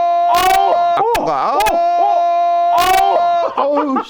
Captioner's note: buzz, another audio peak!!